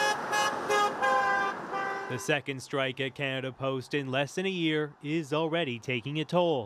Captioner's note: horns honking